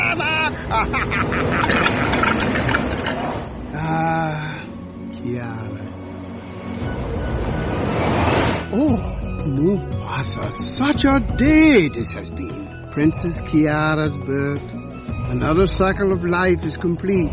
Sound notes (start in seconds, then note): 0.0 Rafiki laughs; 6.0 wind blowing